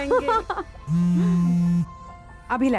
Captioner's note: Phone vibrating